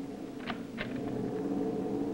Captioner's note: wind howls